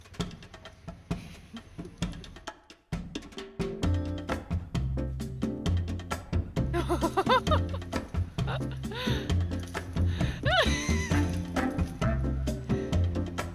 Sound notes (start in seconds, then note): 0.6 bouncy music; 6.7 laughs